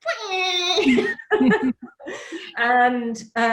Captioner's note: laughs